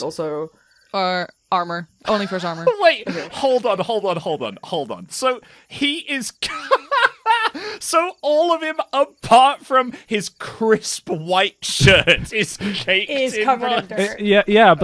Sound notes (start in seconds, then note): 2.7 laughs